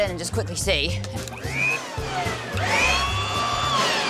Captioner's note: leaf blower whirrs